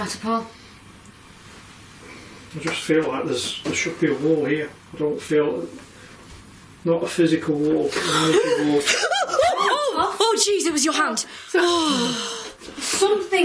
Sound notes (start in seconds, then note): 8.3 gasping